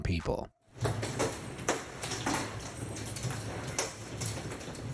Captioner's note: hail thumping